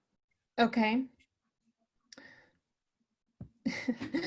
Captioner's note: giggling